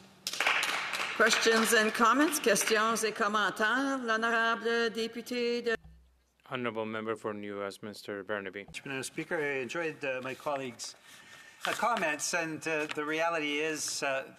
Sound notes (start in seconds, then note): 2.9 applause; 7.8 speaking French